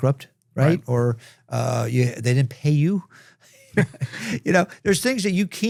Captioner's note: chuckles